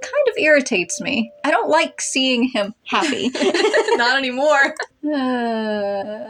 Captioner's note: laugh